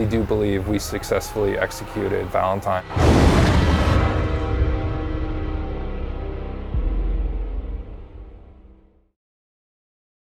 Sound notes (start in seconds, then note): 3.4 dramatic music; 3.4 tiger snarling